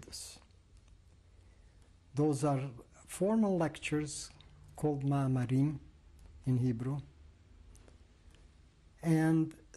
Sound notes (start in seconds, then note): 6.4 hebrew